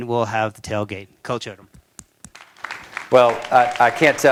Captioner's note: applause